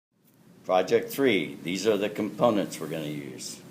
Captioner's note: voiceover